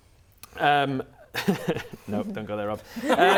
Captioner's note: laughing; laughs